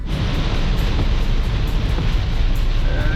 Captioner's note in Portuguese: Som de chuva